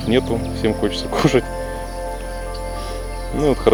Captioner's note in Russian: смеется